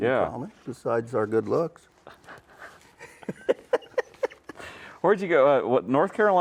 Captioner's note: laugh